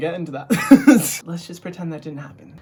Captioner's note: laughs